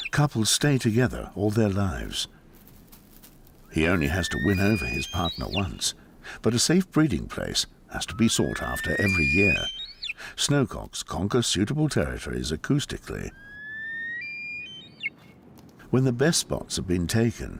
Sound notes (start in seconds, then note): 13.1 snowcock calling loudly